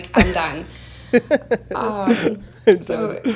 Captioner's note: chuckles